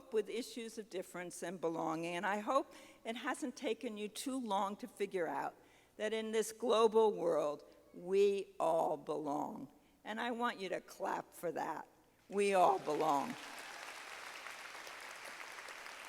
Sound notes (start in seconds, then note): 12.7 audience clapping